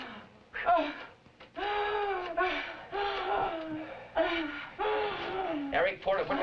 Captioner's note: gasping